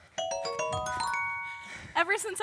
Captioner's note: dings